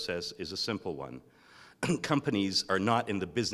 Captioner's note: cough